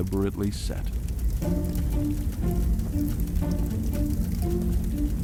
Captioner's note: fire crackling